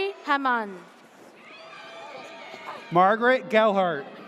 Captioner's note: audience cheers